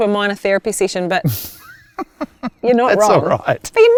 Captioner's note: laughs